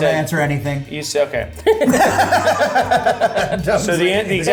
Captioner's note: laugh